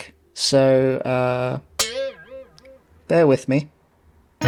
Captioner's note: twang